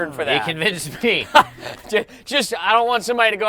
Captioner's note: laughs